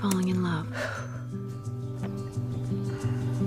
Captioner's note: exhales